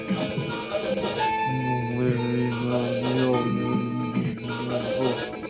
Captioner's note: warg screeches in distance; growls